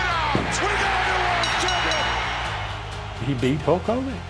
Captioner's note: bell rings